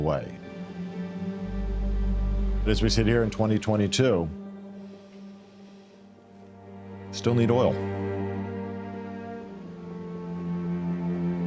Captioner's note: inhales